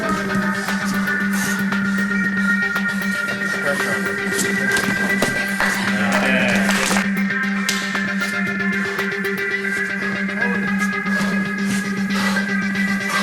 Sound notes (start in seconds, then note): 2.3 soft rock music; 6.8 audience applauding; 8.3 heavy breathing; 10.5 soft rock music